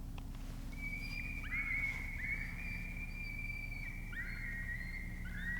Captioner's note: coyote pups screaming